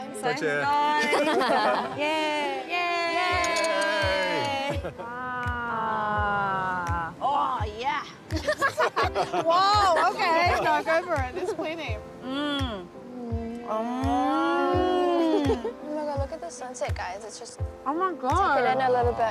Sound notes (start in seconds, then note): 1.0 laughter; 2.1 all speak cantonese; 12.6 all laugh